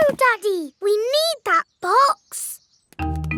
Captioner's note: none